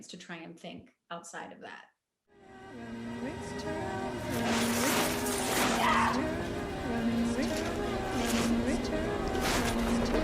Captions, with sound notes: to try and think outside of that (wall paper tearing) (woman screaming) (eerie acapella music)